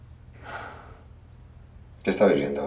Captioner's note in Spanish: suspiro